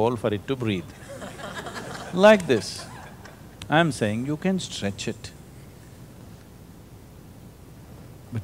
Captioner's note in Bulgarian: Смях